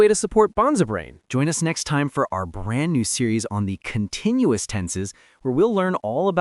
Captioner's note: excitedly